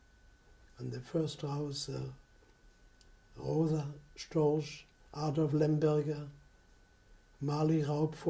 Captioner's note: non-english